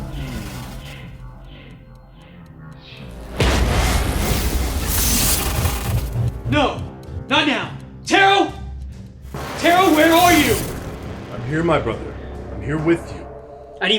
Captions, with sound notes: (lightning striking) No, not now! Terro! Terro, where are you? - I'm here, my brother. I'm here with you.